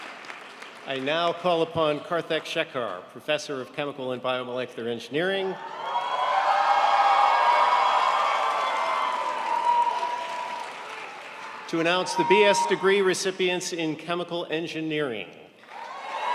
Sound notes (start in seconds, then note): 5.6 crowd applauds